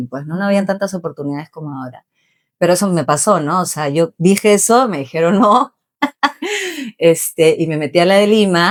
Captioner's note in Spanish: risas